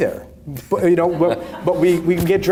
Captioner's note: audience laughing